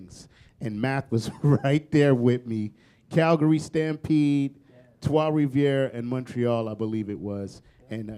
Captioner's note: chuckle